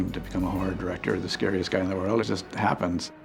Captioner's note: none